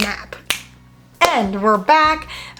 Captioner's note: fingers snap